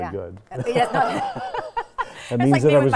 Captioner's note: both laughing